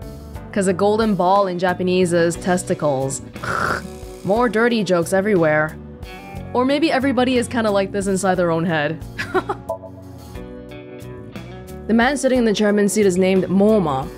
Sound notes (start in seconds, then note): 9.2 chuckles